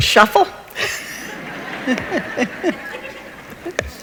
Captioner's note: laughs